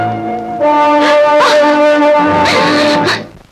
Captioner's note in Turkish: Hıçkırıklar